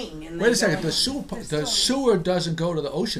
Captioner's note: voiceover